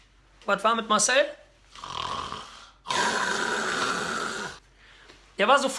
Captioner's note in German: schnarch